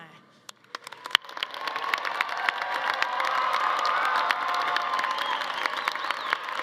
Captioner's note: everyone applauding; attendees cheering